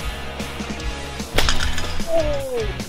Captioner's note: cable snaps